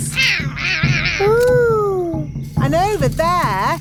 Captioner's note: roaring